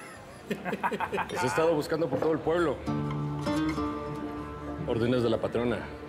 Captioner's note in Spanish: Risas